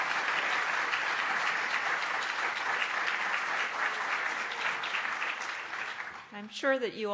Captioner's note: applause